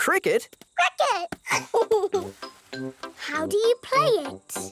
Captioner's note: giggles